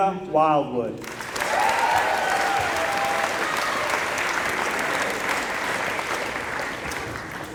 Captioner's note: applause